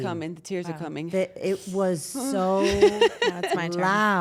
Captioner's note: laugh